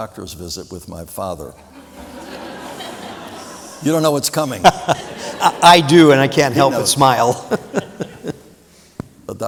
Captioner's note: laughter